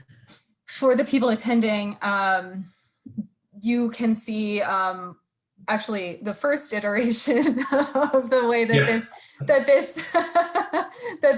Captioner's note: both laughing